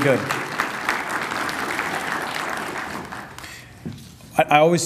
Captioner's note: applause